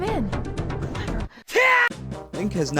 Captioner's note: Link Scream